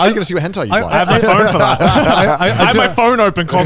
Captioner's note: laughing